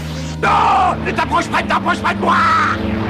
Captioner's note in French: Voix de Vegeta